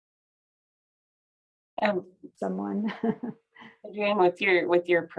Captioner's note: laughter